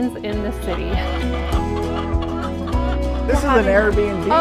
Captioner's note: chickens clucking